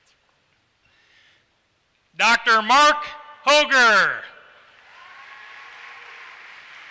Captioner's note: applause